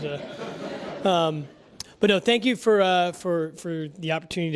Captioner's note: laugh